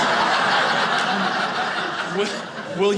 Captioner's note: audience laughing